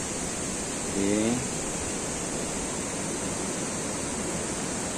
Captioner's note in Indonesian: suara sungai